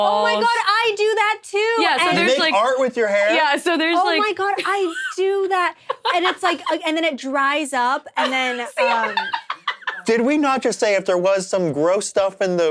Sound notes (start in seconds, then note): 8.2 laughs